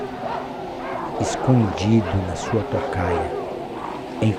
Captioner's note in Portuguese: Vento sopra